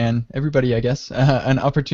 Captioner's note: chuckles